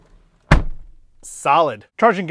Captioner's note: door slams